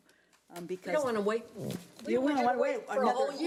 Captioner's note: overlapping chattering